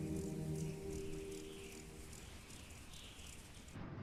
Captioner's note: wind whistling